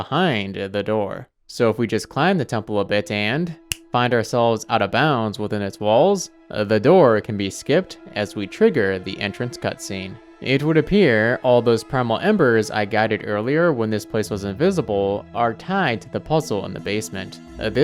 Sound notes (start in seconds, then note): 3.6 snaps fingers